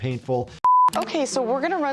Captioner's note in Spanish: la pantalla emite un pitido